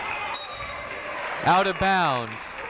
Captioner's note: whistle tweeting